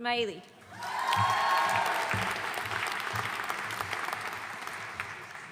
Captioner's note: audience cheering and applauding